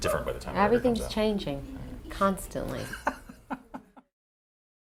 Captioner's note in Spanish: Laughs